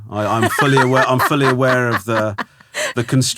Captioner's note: laughing